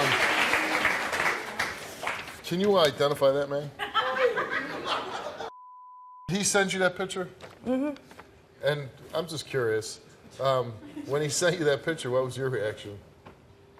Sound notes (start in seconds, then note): 3.8 audience laughing